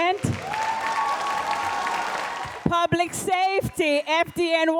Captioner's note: audience applauds